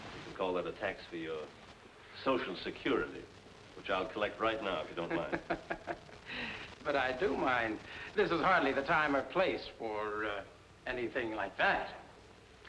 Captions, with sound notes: Call that a tax fee or social security which I'll collect right now, if you don't mind. (Ritchie laughing) - But I do mind. This is hardly the time or place for anything like that.